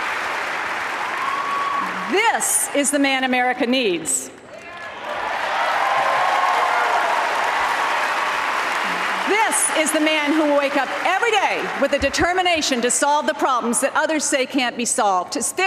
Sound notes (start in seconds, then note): 0.0 applause; 7.5 applause